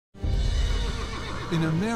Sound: horse neighs

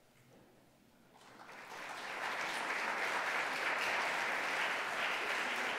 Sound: audience applauding

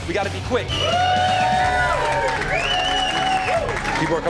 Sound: crowd cheering

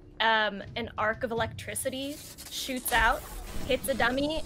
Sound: electricity hitting

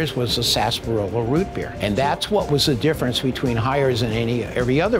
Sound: none

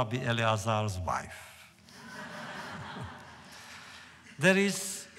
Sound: laughter

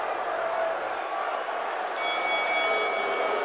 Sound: bell

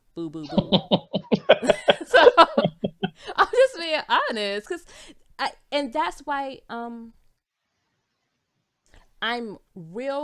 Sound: both laughs

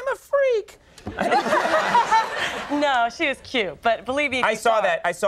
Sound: audience laughing

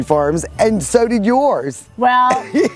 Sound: laughs

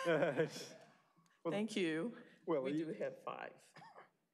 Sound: laughter

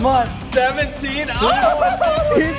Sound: yelling

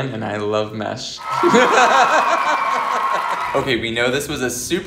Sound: crowd cheering; laughing

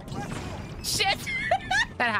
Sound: laughter

